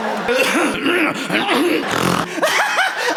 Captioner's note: clears throat; snort; laugh